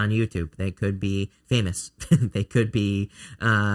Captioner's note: chuckling